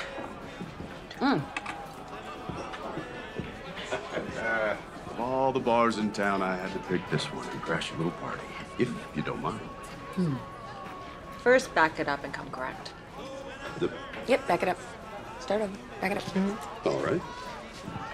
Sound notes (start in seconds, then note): 2.6 laughs